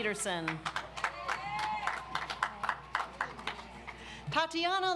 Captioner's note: audience applauds